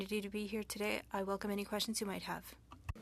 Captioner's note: speaking French